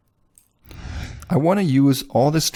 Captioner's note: air whooshing